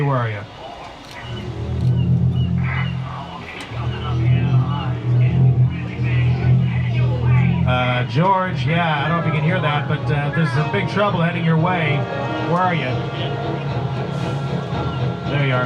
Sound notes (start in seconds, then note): 1.5 soft uneasy music; 5.6 Amity residents chattering; 13.8 soft ominous music